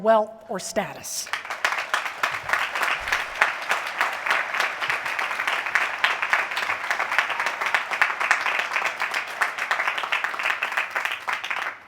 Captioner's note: applause